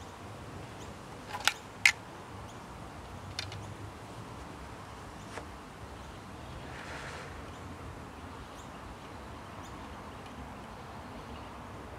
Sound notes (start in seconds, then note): 3.0 birds chirp